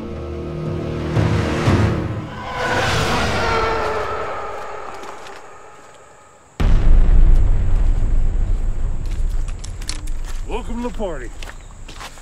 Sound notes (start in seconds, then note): 1.5 TIE fighters fly; 6.6 distant explosion